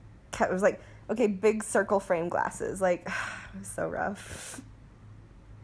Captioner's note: sigh